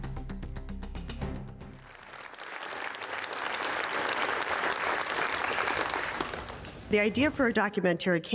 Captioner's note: applause